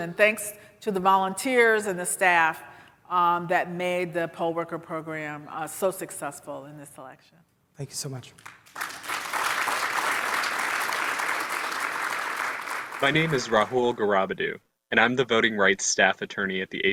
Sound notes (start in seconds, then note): 8.3 audience applauding